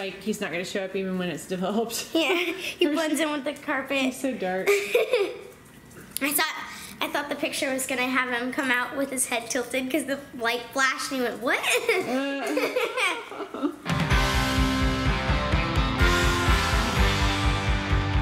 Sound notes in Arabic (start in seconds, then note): 4.7 يضحك; 11.6 يضحك